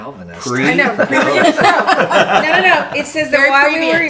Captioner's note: laughing